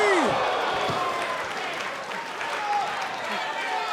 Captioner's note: crowd cheering